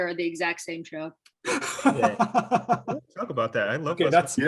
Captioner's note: laughs